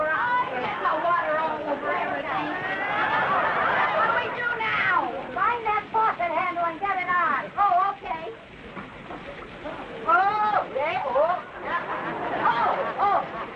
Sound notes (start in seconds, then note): 1.4 audience laughing; 10.1 Viv groaning